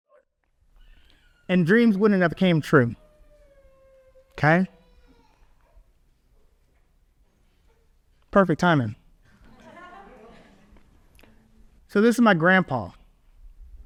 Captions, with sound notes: And dreams wouldn't have came true, okay? Perfect timing. (audience laughs) So this is my grandpa.